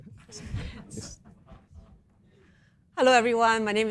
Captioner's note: laughter